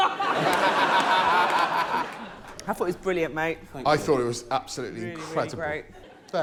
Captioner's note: laughter